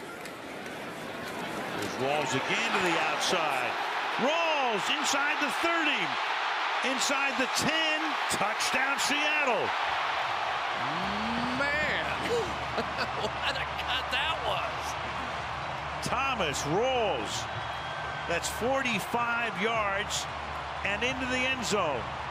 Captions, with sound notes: as well. There's Rawls again to the outside. Rawls, inside the 30, inside the 10, touchdown, Seattle. [cheering] Man. [laughs] What a cut that was. Thomas Rawls, that's 45 yards and into the end